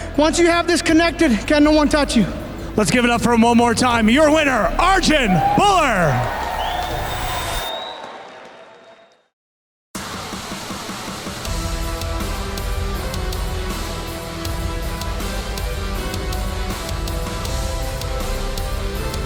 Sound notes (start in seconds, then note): 6.3 crowd cheering; 9.8 dramatic rock music